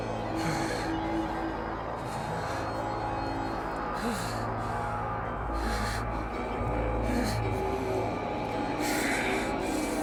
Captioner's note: heavy breathing